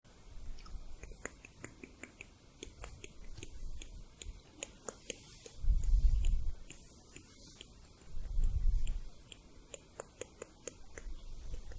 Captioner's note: tongue clicking, slowing down